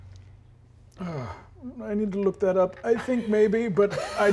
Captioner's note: sighing